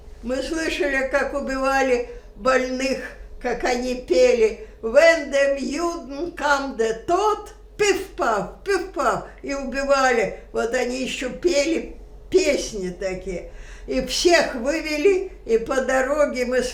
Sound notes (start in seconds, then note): 4.7 german